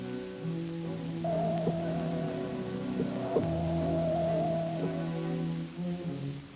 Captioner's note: pulsating sound